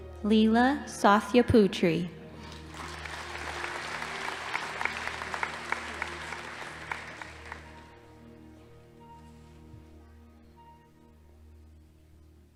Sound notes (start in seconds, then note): 2.4 audience applauding